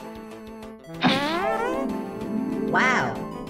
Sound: delighted fart noise

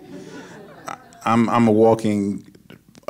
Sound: audience laughs

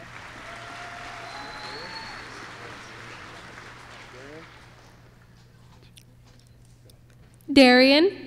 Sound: applause

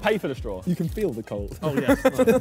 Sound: laughs

